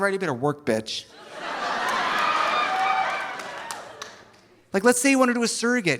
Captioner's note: audience laughing; audience applauding